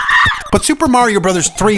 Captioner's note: woman Screams